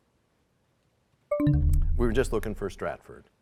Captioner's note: bell chimes, time expires